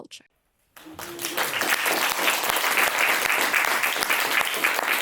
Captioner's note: audience applauding